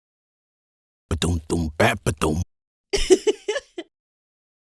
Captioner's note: happy giggle